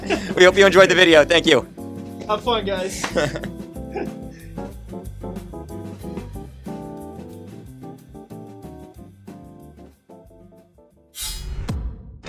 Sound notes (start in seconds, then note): 3.0 laughing; 11.2 sword sound; 11.3 boom